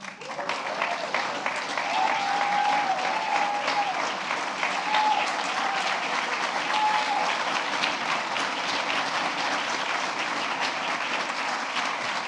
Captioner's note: applause